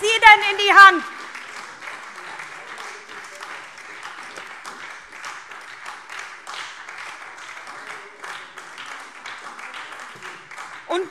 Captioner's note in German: Beifall SPD